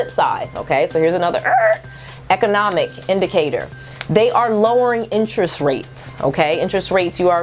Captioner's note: Skreetch